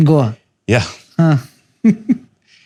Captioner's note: chuckles